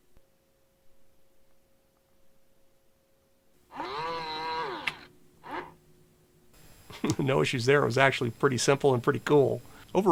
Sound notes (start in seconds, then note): 3.7 motor whirring